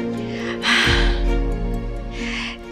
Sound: scoffs

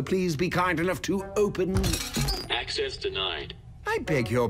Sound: thud, dishes clatter

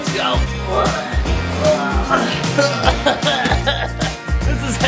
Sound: straining

